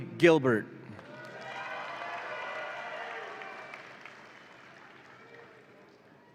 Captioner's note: audience applauds and cheers